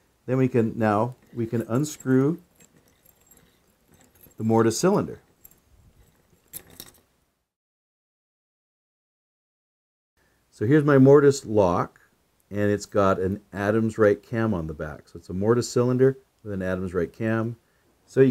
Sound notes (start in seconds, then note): 2.7 keys jingling; 6.3 keys jingling